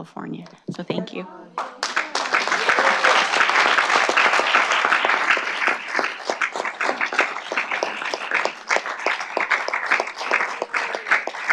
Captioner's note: clapping